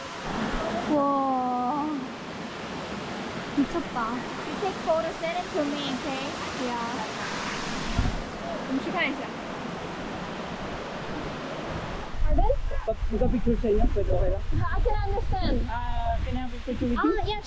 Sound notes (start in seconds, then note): 12.2 people talking